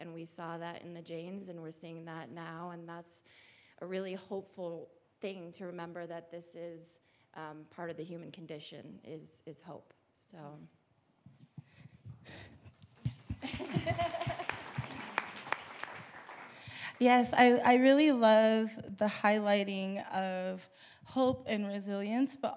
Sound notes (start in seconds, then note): 13.0 audience applauding